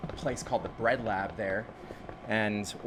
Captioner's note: bucket tapping